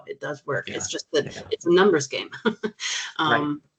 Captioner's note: chuckling